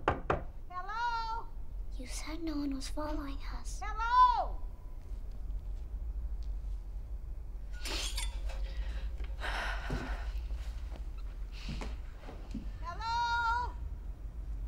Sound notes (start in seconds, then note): 0.0 knocking